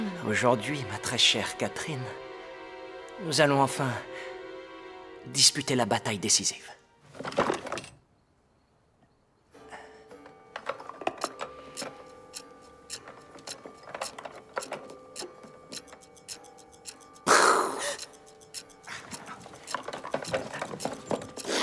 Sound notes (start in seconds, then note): 7.0 box clattering; 9.6 clock chiming; 10.5 pieces clattering; 11.2 clock ticking; 17.2 sighs